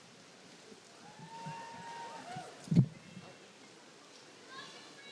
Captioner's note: audience cheering